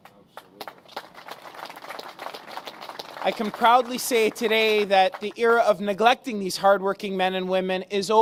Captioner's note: applause